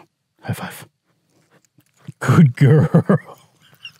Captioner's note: laughs